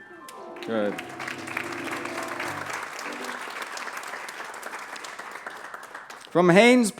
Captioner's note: applause